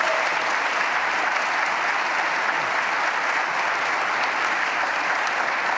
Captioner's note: applause